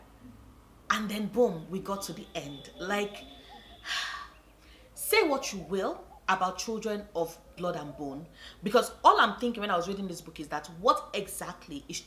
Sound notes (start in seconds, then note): 3.8 sigh